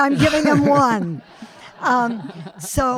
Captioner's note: audience laughing